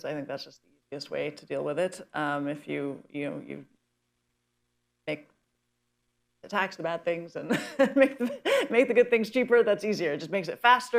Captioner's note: laughs